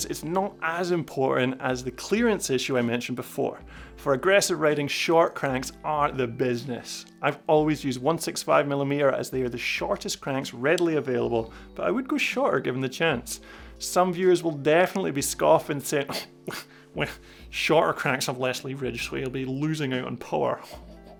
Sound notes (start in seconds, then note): 16.1 scoffs